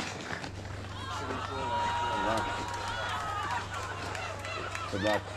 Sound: afflicted cheering

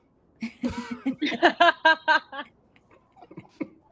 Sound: group laughs

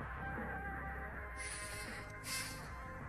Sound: sighs

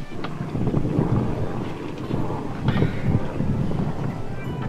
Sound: wind blowing

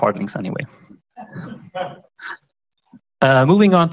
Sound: laughter

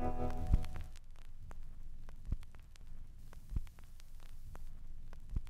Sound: keyboard clicks; record vinyl crackling

